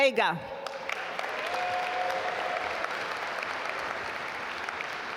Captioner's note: audience applaud